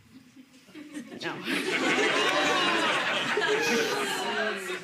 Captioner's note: laughing; audience laughing